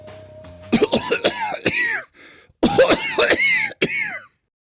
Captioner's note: coughing